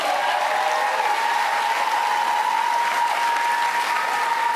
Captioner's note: applause; cheers and applause